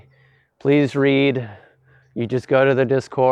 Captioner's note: Exhales in "Clicking 3 buttons is to hard" - Discord commenter